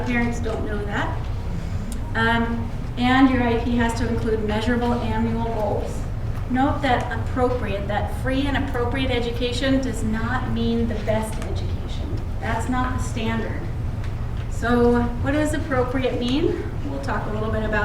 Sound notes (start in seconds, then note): none